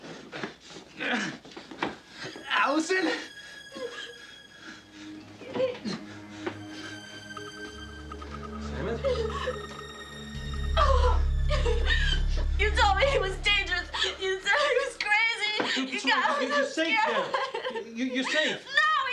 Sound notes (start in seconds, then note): 0.1 Hudson groaning; 5.4 tense music; 11.0 Allison whimpering